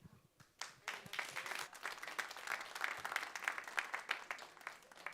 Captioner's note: audience applauding